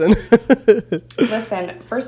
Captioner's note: chuckles